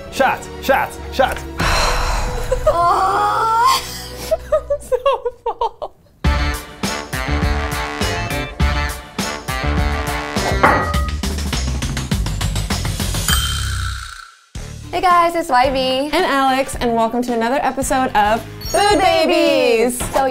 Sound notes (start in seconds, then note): 1.6 sighing; 4.2 giggling; 6.4 upbeat music